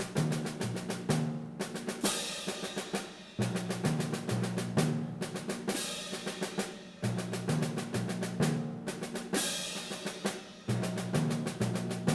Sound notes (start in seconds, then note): none